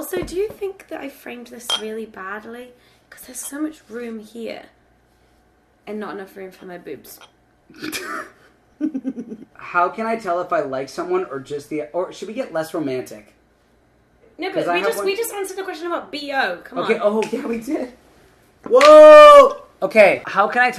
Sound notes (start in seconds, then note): 8.8 laughing